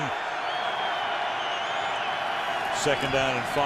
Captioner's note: cheering